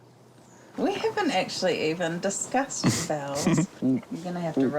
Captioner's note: chuckles